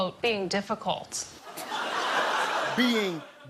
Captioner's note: laughter